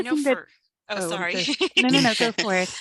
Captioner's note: laughs